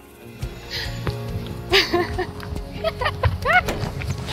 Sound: laughs

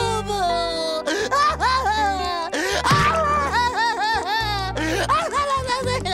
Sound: crying

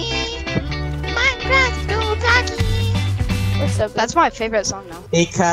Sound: none

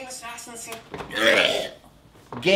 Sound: retching

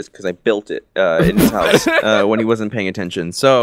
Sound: laughing

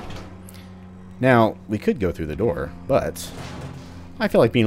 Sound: smashes vent

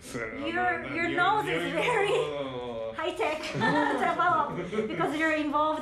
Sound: laughs

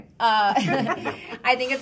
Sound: women laughing

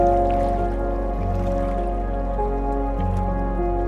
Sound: lake sounds

